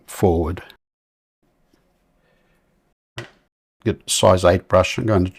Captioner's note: silence